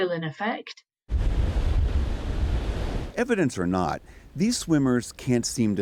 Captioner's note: voice-over